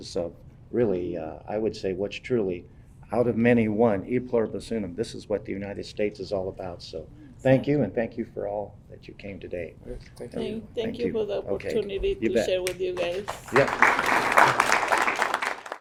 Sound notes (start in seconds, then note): 14.2 audience clapping